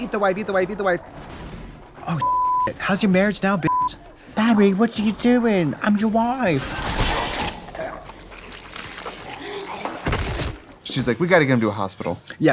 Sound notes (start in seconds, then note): 2.2 beeping; 5.6 slashing; 6.4 blood gushing